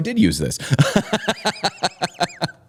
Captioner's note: laughter